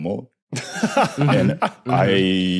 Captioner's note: laughs